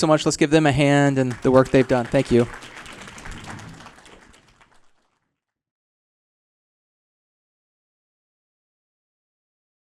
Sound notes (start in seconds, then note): 3.4 applause